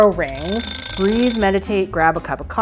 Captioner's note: rings